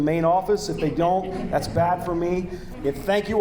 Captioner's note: audience laughing